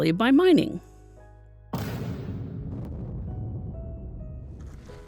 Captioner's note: explosion